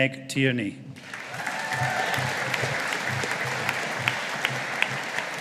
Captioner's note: audience applauding